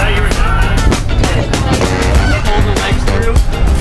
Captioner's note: people laughing; people chattering on bus